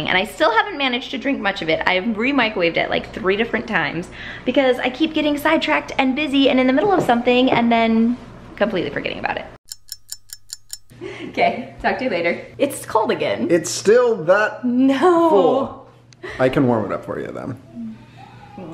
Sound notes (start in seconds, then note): 9.6 clock ticking; 11.6 laughs; 16.1 laughs